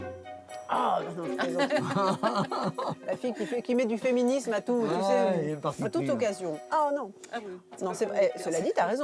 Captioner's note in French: rires